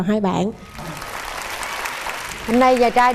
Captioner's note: applause